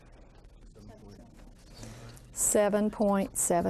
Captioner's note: student speaking faintly